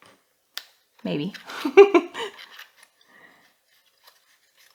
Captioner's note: giggle